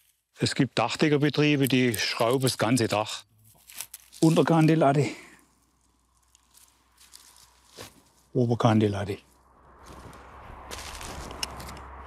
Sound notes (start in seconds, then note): 9.2 whispering wind